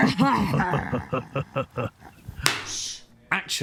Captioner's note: laughing